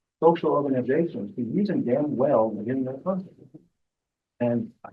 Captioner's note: presenter speaking faintly off mic